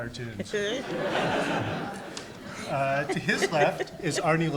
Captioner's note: audience laughs